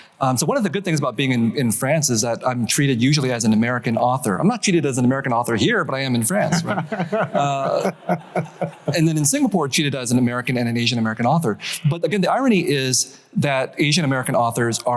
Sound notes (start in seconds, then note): 6.4 laughs